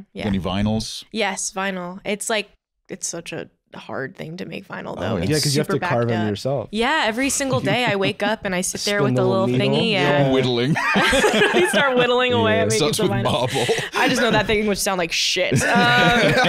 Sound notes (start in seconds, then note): 9.2 laughing